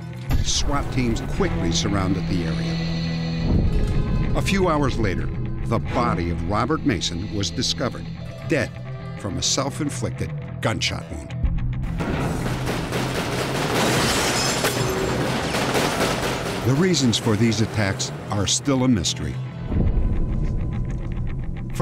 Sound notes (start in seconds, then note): 12.0 gunfire